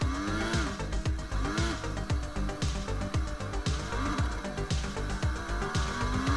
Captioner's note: car engine roaring; upbeat music